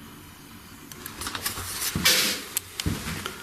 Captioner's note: shuffling; metal clanging